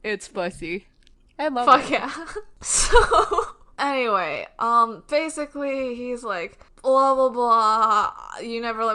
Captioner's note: laughs